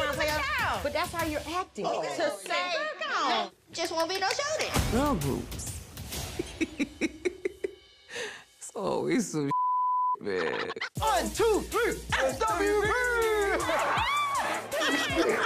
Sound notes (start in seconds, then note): 5.9 laughs; 12.9 laughs